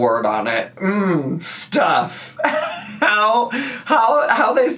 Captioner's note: laughs